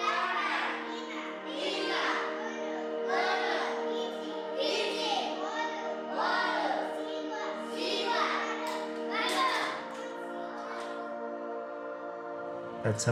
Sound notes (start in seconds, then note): 6.3 class continues to speak in CHamoru